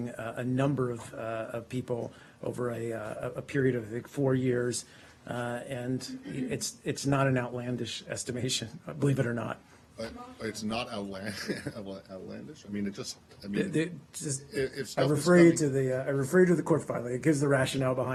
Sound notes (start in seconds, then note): 11.3 laughter